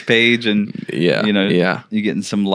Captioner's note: laughing